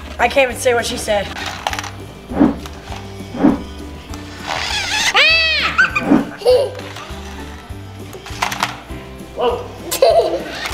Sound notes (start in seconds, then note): 4.8 car engine roaring; 5.1 laughing